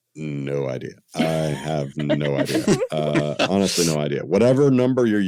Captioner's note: laughter